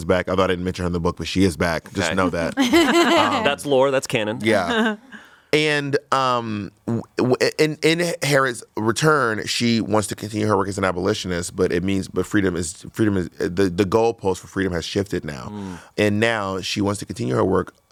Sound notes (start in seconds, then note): 2.5 everyone laughs